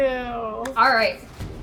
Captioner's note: hands clapping